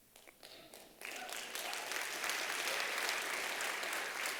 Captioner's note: applause